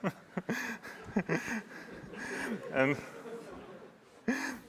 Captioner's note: laughter